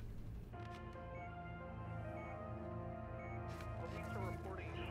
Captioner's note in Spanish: Pitido